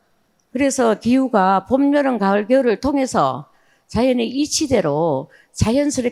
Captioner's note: speaking in foreign language